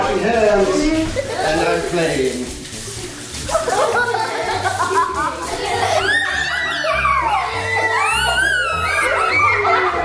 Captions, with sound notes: Now I'm washing hands and I'm playing. (laughing)